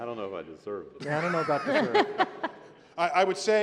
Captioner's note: laughter